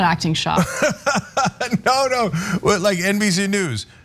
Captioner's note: laugh